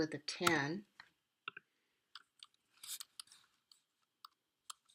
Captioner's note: long pause